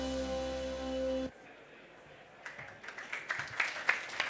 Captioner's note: applause